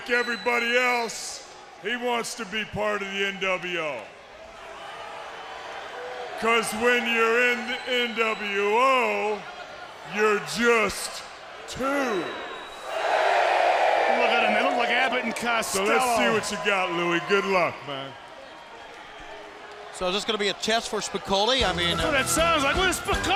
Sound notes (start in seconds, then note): 4.7 crowd chatter; 12.5 crowd cheering